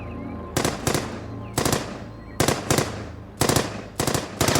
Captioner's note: gunshots blasting